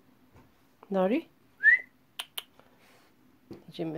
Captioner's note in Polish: gwizdnięcie; cmoknięcie